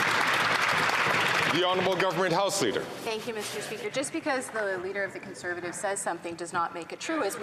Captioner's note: some Applause